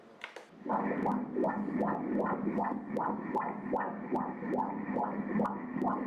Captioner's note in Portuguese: batimentos cardíacos